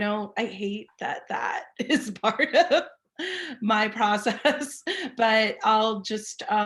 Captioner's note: laughing